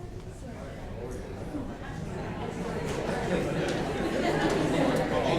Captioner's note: audience members chattering